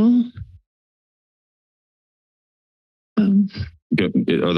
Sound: silence

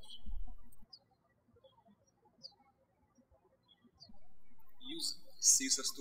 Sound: birds chirping

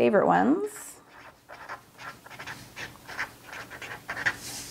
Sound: pen scribbling

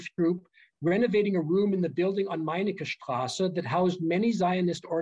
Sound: german

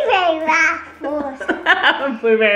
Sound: laughing

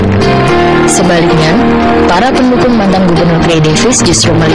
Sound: speaking indonesian

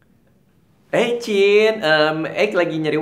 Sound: sissy voice

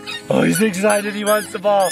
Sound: balloon moves and makes some sound

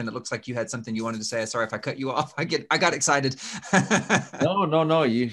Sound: laughs

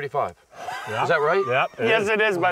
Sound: laughs

